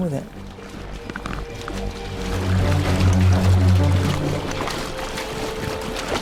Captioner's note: water splashing; dramatic music